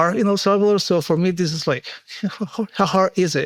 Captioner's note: chuckles